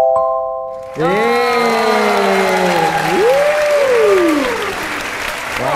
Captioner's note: applause